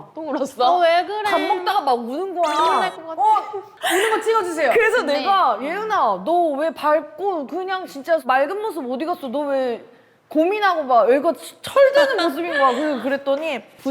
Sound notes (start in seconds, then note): 2.5 choking up